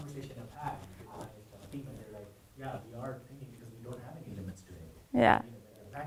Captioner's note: man speaking faintly off microphone